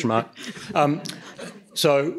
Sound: laughter

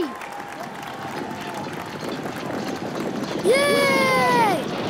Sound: horses hooves thudding loudly

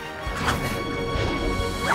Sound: whooshes

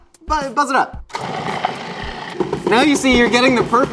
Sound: food processor whirs

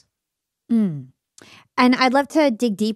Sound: hums

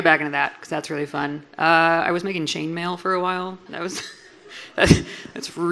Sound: laughs

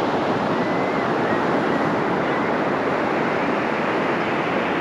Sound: laughing Gulls calling nearby

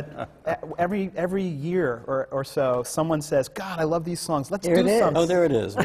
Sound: laughter

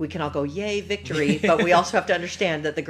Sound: laughs

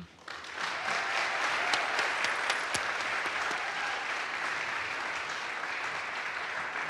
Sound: audience applauds; audience cheers

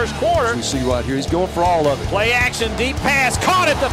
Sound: voiceover

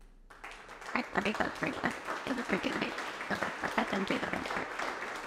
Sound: audience applauding

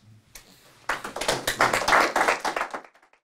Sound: audience applauding

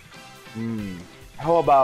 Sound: hrm

